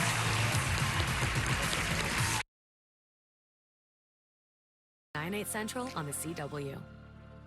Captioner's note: audience applause